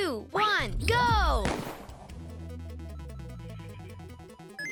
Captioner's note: gun bangs